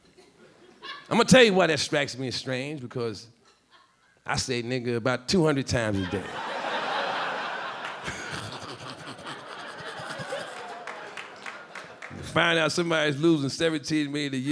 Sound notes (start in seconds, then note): 0.2 a few audience members laughing; 5.9 audience laughing; 7.8 Charlie laughing